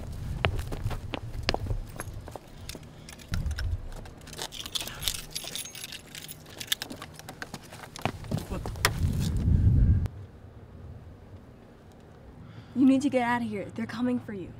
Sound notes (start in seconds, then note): 0.1 footsteps; 1.8 keys jangle; 4.1 frantic keys clink